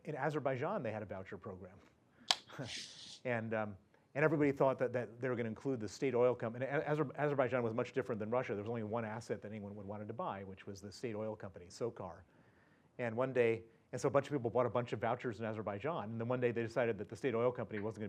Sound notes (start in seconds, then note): 2.5 laugh